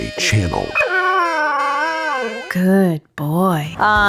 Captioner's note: dog Cries